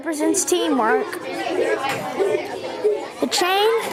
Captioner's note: students chattering